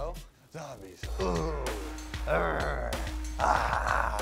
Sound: moaning

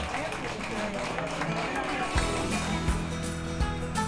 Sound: applause

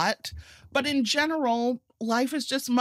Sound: none

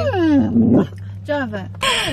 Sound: whining

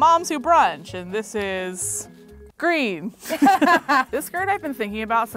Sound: both laughing

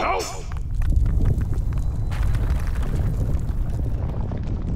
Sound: rumbling, rocks crashing

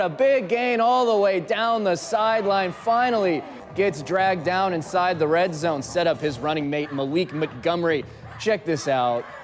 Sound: gators fans cheering for the defense

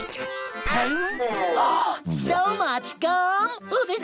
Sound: gasping

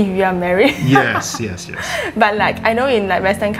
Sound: laughing

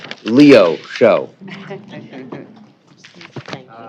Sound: laughter

